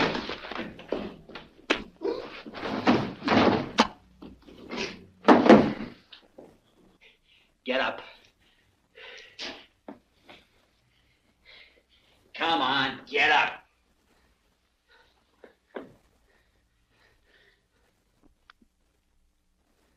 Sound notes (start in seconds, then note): 2.5 thud; 5.1 body clunks